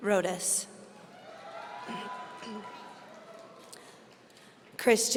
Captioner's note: audience cheering